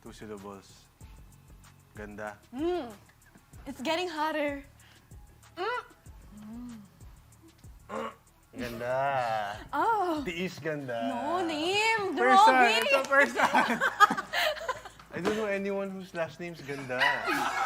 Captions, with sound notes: Two syllables. - Pretty. - Mm! It's getting hotter. Mm! Mmm... - [GRUNTS] - Pretty... Beauty is pain. - No, name! Robbie! - Person! It's a person! I don't know anyone whose last name is Ganda.